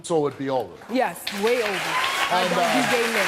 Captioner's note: audience applauding